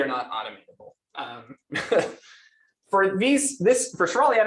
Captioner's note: laughs